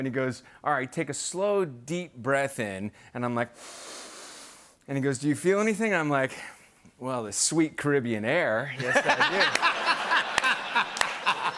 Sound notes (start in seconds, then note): 3.5 breathes deeply; 8.8 laughter